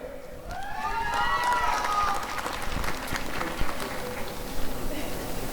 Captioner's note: applause and cheering